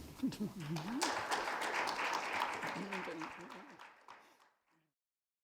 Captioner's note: audience applauds